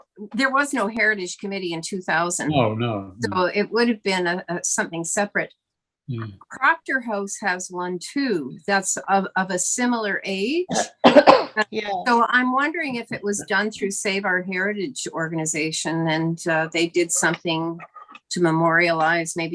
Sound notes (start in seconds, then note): 10.6 coughing